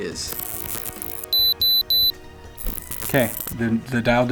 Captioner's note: digital buzzing and beeping